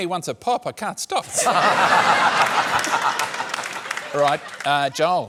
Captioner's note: laughter